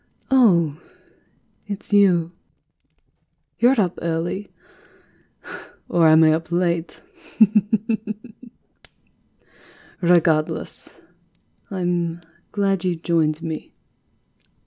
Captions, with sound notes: Oh, it's you. You're up early- (small huff) or am I up late? (Quiet, rueful laughter) Regardless. I'm- glad you joined me.